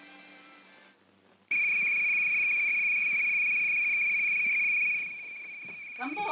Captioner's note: ominous soft music; whistle blows